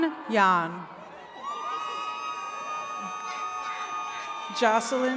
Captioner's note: attendees cheering